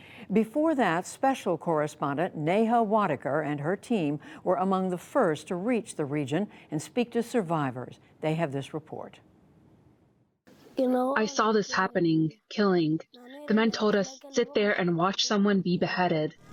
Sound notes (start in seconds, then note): 11.1 through translator